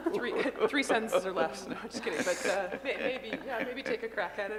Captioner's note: laughter